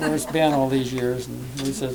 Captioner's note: laughter